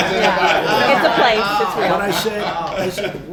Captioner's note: laughter